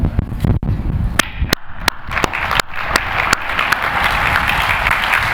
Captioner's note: applause